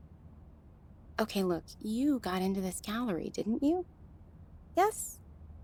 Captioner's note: encouraging tone